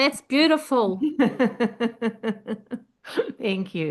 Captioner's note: laughing